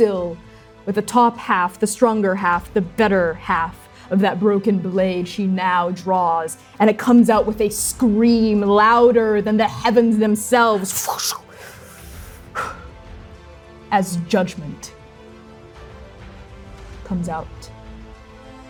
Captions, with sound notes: still, with a top half, the stronger half, the better half of that broken blade she now draws. And it comes out with a scream louder than the heavens themselves, [fwooshing] [exhaling sharply] as Judgment comes out